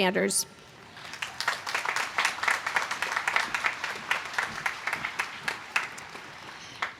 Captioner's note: applause